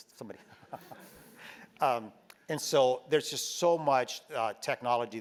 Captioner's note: laugh